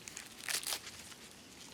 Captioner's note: leaf cracking